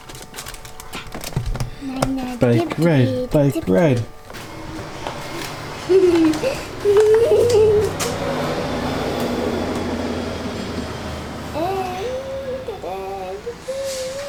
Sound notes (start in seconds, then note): 1.2 babbling; 5.2 laughter; 5.9 babbling